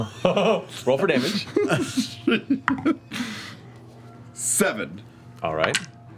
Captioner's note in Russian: смеётся